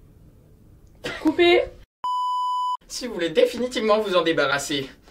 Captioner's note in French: rires